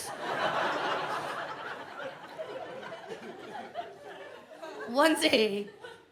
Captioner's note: audience laughs